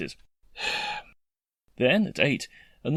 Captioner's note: sigh